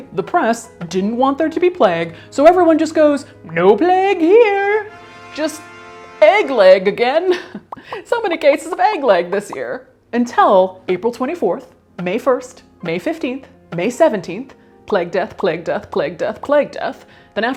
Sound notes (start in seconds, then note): 7.1 chuckles